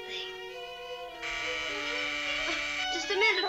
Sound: doorbell buzzes

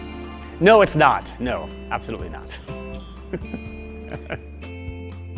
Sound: laughing

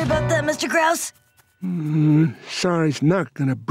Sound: grumbling

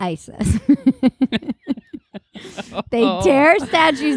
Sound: laughing

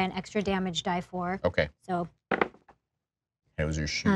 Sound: dice clatter

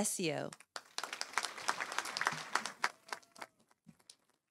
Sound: audience applauding

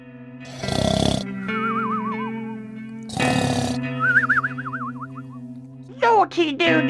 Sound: snoring

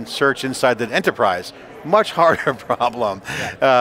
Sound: giggles

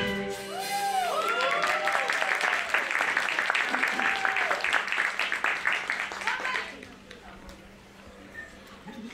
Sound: applause

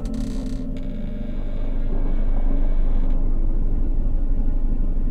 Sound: eerie creaking

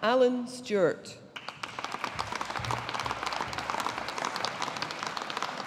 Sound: audience applauding

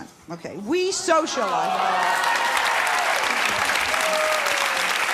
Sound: clapping

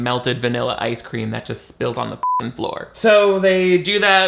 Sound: beeps

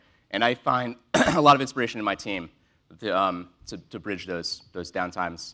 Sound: cough

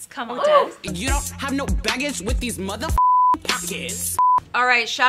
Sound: beep

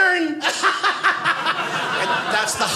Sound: audience laughing

